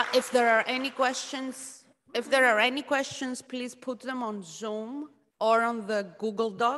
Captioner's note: applause